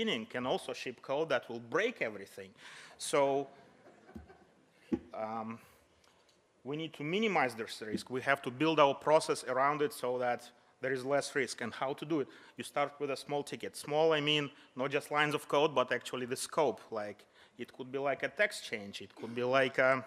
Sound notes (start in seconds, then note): 3.8 soft audience laughter